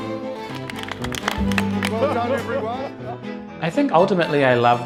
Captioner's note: audience clapping and cheering